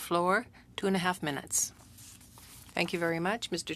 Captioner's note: speaking French